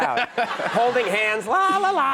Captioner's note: audience laughs